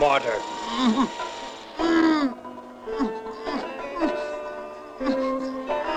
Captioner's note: muffled grunting